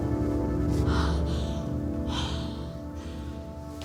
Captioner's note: gasping